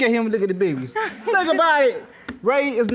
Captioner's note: giggles